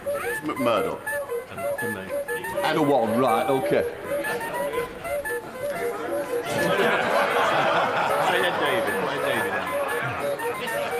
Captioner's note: laughter